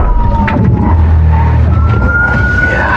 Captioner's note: thuds